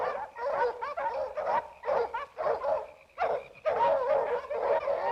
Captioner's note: dogs barking continues